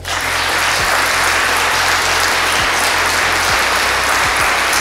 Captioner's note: audience applause